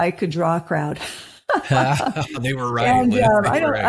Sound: laughter

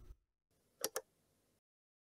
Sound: click sound

